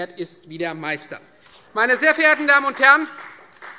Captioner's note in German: Beifall Freie Demokraten